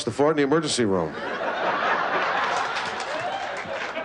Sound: laughter

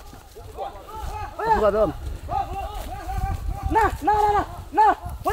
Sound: men shouting

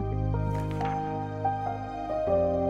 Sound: slide flips; gentle music

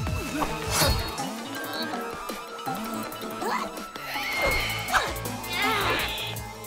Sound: groaning

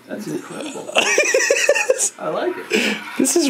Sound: laughs

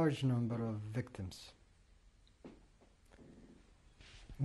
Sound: pauses for 3 seconds

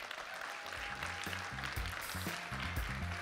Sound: audience applauds; pop music

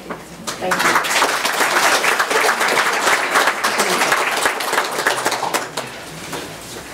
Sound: audience applauds

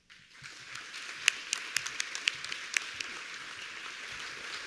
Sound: audience applauding

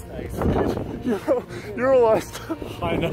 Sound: wind whipping

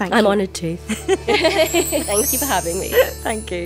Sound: laughs

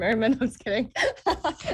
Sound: laughter

